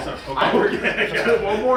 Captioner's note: people laughing